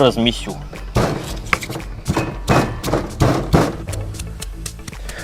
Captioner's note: loud stomping